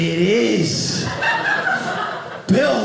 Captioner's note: audience laughing